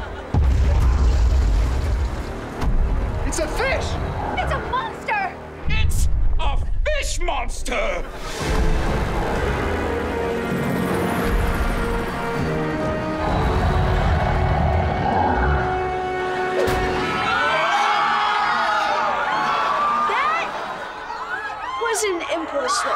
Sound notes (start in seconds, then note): 10.7 helicopter whirring; 13.1 growling; 16.9 screaming